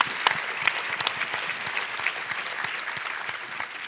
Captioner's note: applause